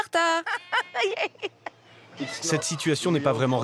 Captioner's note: giggling